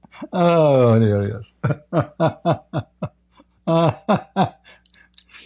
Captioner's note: Ketawa